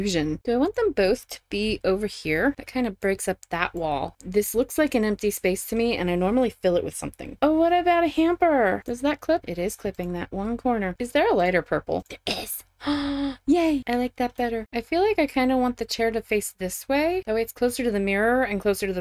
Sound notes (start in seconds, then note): 12.8 gasp